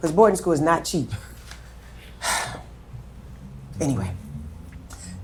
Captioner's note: sighing